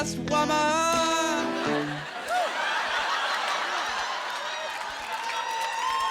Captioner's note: laughter